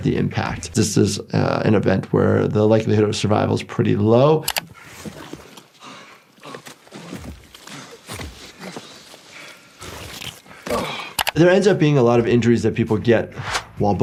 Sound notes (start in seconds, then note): 4.5 mouse clicking; 5.8 victim panting